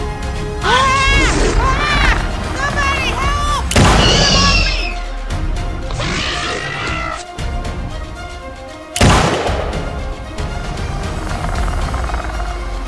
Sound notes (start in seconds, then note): 0.6 Dr. Sattler yelling; 3.7 gunshot; 5.8 velociraptor screeching; 9.0 gunshots